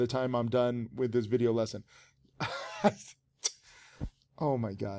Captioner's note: laughs